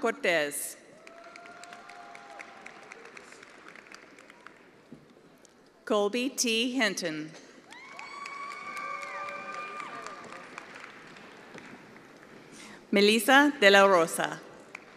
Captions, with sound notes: Jesus Duran Cortez. (attendees applauding) Colby T. Hinton. (attendees applauding)